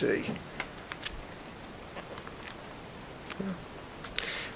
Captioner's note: album pages flipping